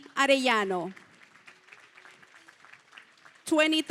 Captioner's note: applause